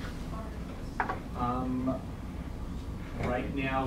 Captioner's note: faintly speaking